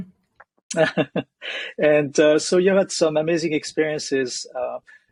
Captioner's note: chuckles